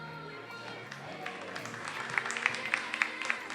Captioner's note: attendees applauding